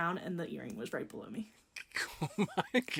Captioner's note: laughing